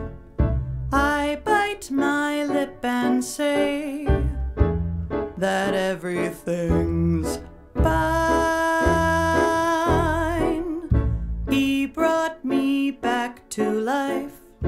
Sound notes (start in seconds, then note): none